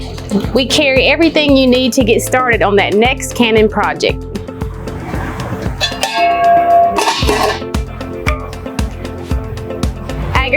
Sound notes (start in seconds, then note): 5.8 lid clutters; 8.8 upbeat music